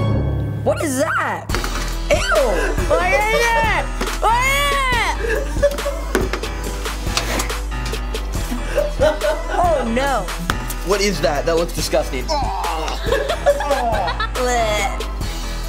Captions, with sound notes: What is that? Eww! What is it? What is it? [laughing] Oh, no! What is that? That was disgusting! Aww! [laughing] Eugh!